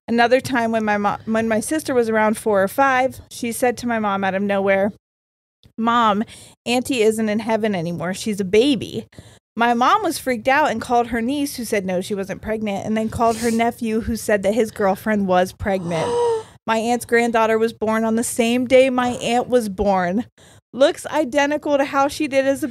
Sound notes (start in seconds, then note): 15.8 gasps